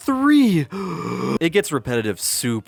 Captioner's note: exaggerated gasping